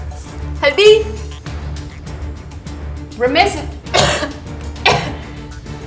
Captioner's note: coughs